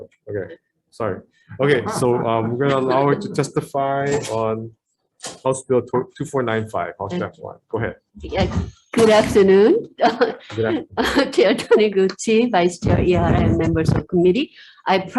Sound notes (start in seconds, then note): 10.0 chuckles